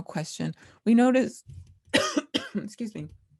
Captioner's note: cough